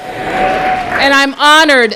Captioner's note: applause